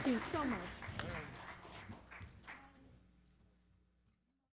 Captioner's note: audience clapping